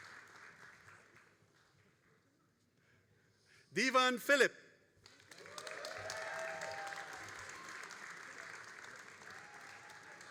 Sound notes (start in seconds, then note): 5.1 all applauding and cheering